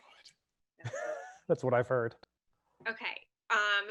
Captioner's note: chuckles